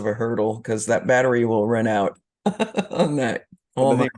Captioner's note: laughs